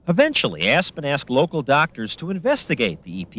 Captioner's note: none